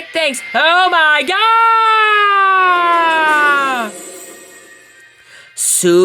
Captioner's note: portal Opens